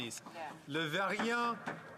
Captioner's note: speaking French